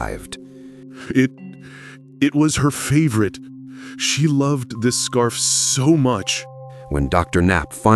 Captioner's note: weeping